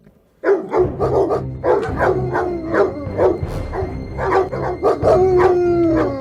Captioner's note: dogs barking; suspenseful music